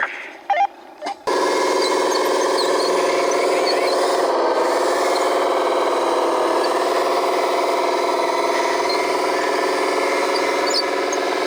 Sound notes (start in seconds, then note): 0.2 radio beeps; 1.4 truck engine roaring